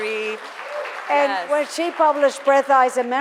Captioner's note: audience applause